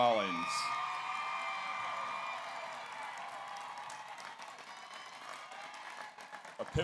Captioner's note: audience applauds; audience cheers